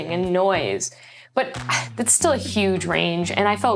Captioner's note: sighs